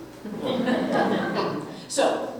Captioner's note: audience Laughing